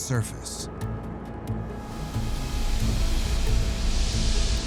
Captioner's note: ominous music; gases hissing